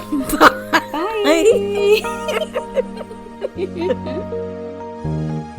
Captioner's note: laughing; outro music